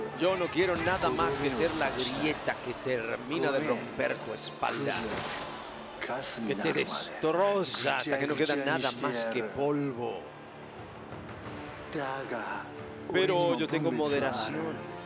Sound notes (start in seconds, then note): none